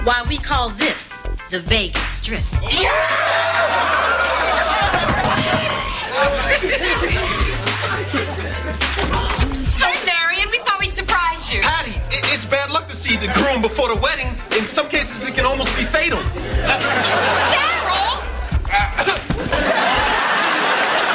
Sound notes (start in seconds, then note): 4.8 knock on door; 18.8 clears throat